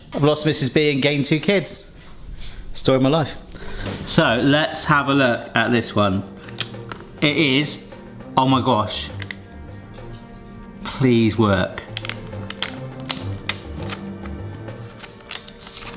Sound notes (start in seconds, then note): 8.8 dramatic tense music; 11.8 film crinkling